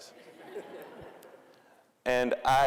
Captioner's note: audience laughing